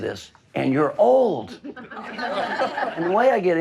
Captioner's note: laughing